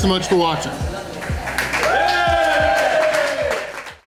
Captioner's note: crowd applause